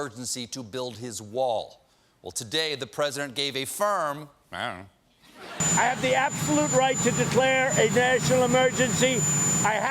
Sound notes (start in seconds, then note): 5.2 laughter